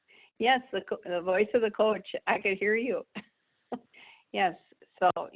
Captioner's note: laughs